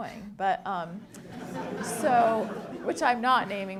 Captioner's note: audience laughing